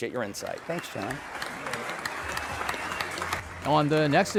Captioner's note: audience applauding